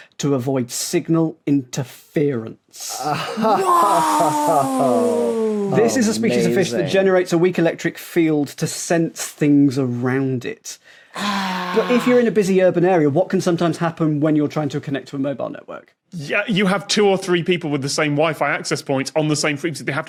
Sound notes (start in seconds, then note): 3.0 laughs